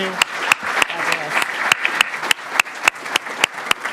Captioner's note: audience applauds